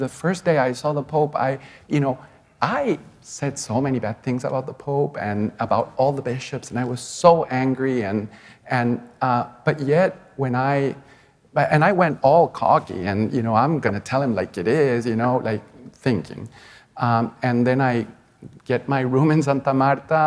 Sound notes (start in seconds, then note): none